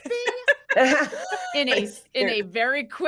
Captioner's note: everyone laughs